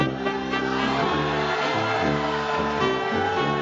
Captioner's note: audience cheers